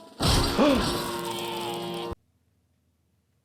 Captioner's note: gasps